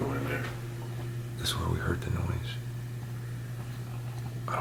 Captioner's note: whispers